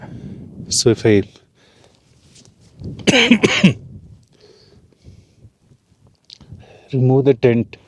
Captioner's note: coughs